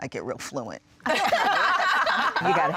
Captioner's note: laughter